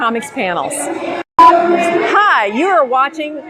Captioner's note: beeping